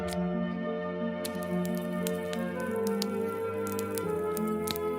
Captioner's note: soft fire crackling